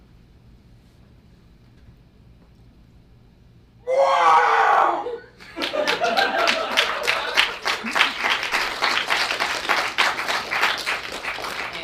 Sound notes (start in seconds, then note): 3.8 Wilhem scream; 5.4 audience applause